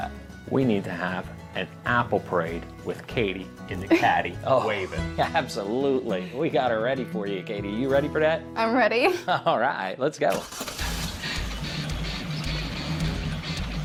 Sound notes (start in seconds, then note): 3.8 laughs; 10.3 car starting; 10.9 upbeat music